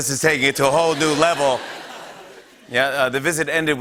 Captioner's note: laughter